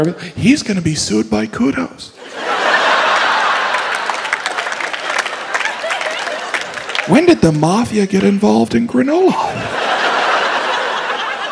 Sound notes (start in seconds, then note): 2.2 crowd laughing